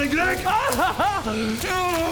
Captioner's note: cries